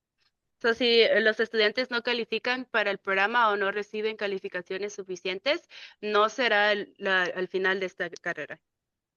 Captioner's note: speaking in Spanish